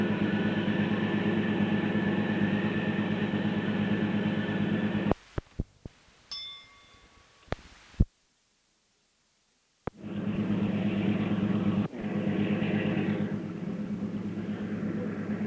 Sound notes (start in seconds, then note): 0.0 sound of train moving; 6.2 bell Sound; 11.3 sound of train moving